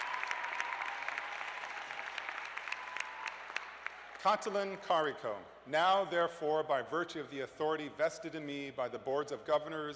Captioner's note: cheers and applause